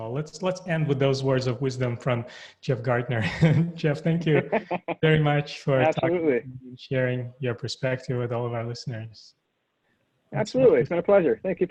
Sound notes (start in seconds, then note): 4.1 chuckles